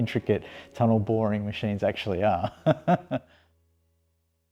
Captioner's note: laughs